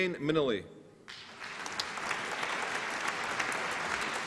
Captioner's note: applause